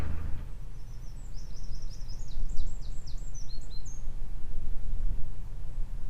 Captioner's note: birds singing